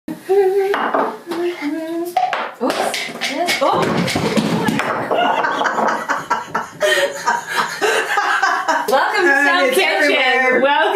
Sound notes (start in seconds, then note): 0.3 humming a song; 5.0 laughing